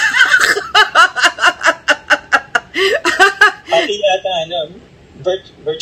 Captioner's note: laughter